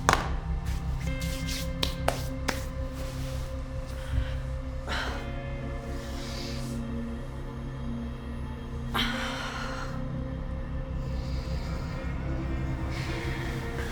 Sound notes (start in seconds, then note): 0.0 hands clap; 3.9 Claire sighs